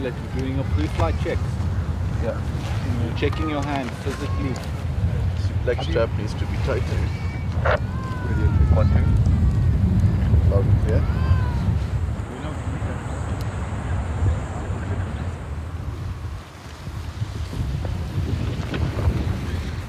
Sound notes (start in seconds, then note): 10.3 wind rustling